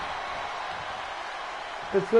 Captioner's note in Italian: Applauso